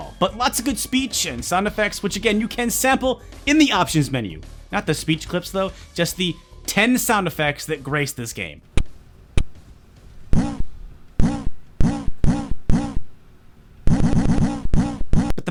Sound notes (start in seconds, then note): 8.7 lo-fi clicking; 10.3 bitcrushed grunting